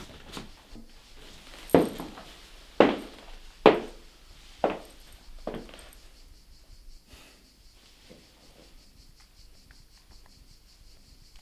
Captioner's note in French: chants de cigales